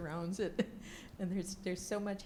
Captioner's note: laughs